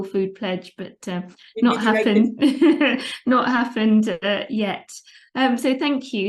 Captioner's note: laughs